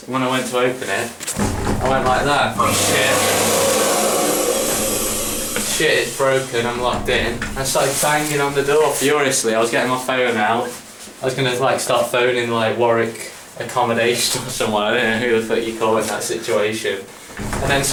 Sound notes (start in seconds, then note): 1.3 door rattles; 3.7 hand dryer whirs